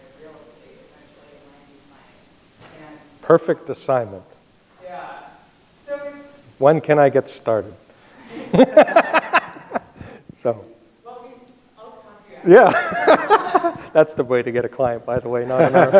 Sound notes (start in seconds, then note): 8.3 laughs; 12.5 laughs